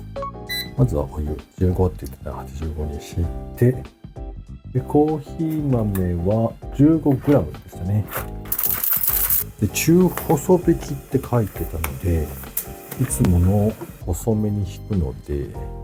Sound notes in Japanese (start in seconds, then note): 8.1 豆が落ちる音